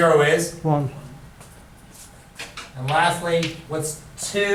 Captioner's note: voiceover